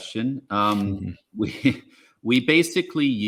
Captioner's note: chuckles